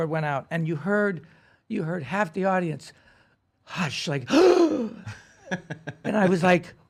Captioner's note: gasps